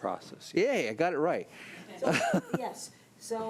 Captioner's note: laughs